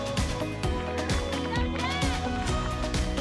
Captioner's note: applause and cheering